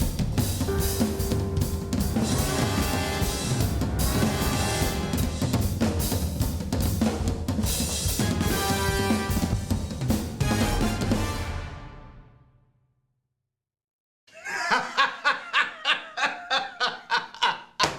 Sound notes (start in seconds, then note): 14.3 laughs